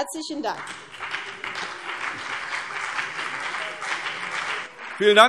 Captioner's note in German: Beifall CDU und BÜNDNIS 90/DIE GRÜNEN